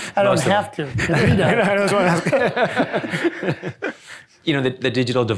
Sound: chuckles

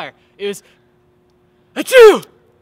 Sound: sneeze

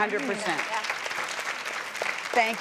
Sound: crowd clapping

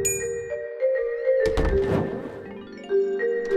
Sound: flame lighting

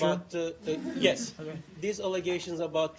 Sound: laughter

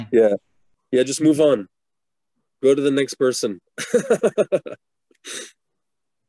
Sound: laughs

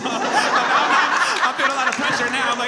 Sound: all laugh

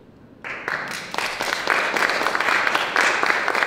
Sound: applause

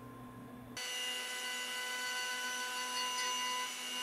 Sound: machine whirring

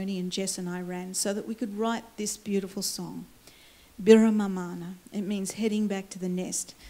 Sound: foreign words

